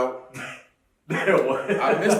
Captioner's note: laughing